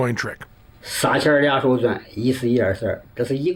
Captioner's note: non-english speech